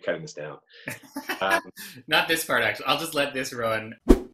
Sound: laughs; whoosh

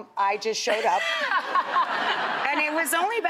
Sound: Katherine and audience laugh

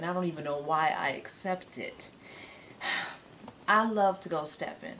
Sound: scoffs

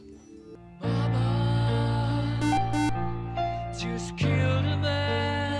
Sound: beep

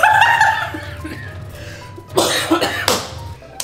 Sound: laughing; coughing; hands clapping

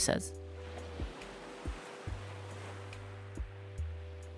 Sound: waves crashing

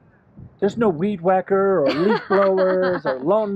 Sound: laughs

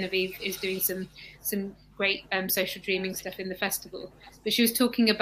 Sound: erm

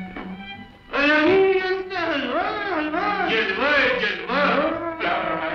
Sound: speaking 'foreign' language

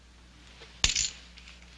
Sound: clank

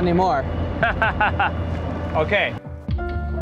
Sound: laughs

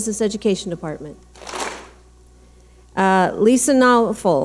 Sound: clap smack

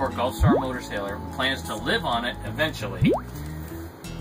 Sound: silly sound; silly sound

